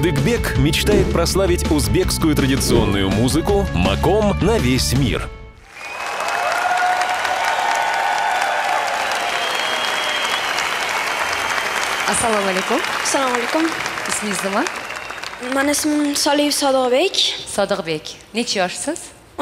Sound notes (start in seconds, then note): 5.5 applause